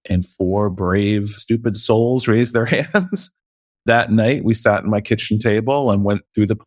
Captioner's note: laughs